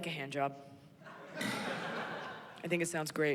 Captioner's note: laughter